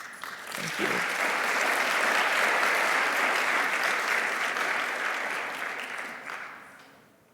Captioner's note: audience applauding